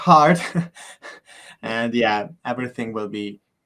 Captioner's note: chuckles